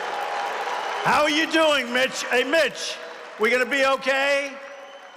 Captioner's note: applause